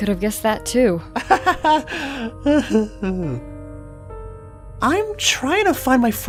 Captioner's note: chuckles; awkward laughter